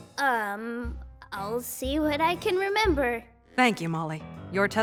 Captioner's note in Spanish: Nerviosamente